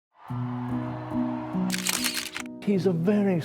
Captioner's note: gentle music; camera clicking